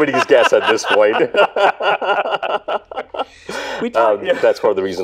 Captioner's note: both laughing